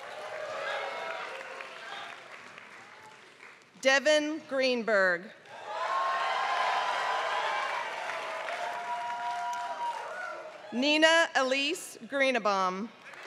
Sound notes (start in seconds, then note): 0.0 applause; 5.7 applause; 12.9 applause